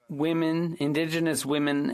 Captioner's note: speaking French